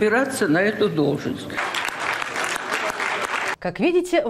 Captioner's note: thunderous applause